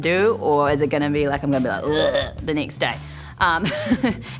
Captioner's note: groans; chuckles